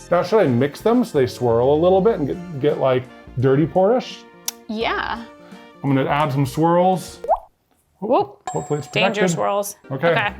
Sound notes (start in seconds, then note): 7.2 paint dripping